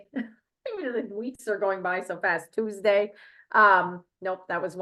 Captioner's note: chuckles